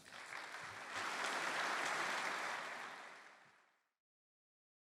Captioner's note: applause